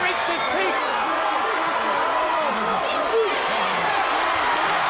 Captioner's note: crowd cheering